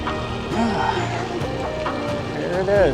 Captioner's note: exhales